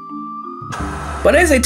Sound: electrical static

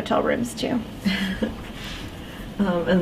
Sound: chuckling

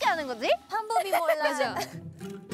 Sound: laughing

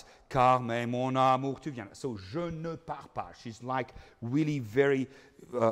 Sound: speaking in foreign language

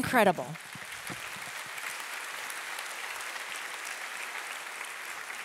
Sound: audience applauding

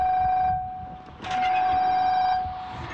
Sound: pay phone ringtone; phone box opened; pay phone ringtone

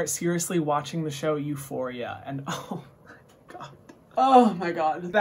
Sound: giggles

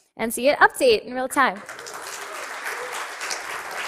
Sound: cheering and applause

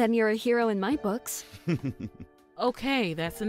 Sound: chuckle

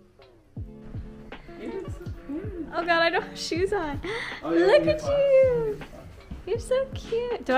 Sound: gasps

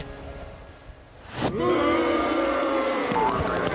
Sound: booing

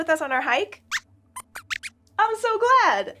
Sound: squeaks squeaks

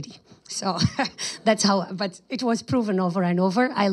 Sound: laughs

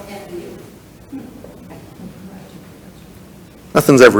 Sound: people chuckle

